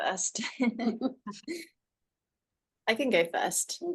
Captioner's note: laughs